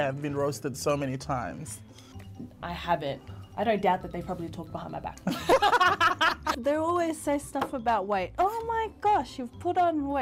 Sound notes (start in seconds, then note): 5.2 both laughs; 7.4 hand slaps the table